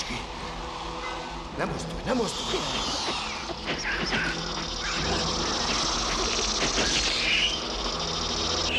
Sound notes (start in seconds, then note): 4.8 hissing, squealing